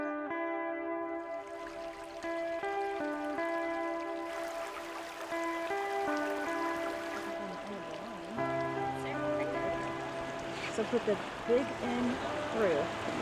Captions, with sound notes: (water sloshing) (fishers chattering) - So put the big end through,